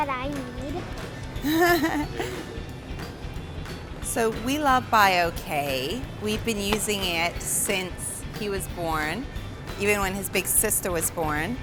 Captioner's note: laughs